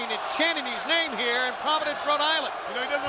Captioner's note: crowd cheering